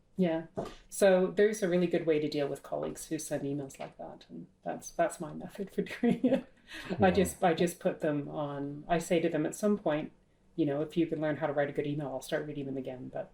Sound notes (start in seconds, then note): 6.8 laughs